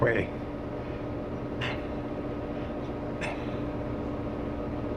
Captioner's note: gasps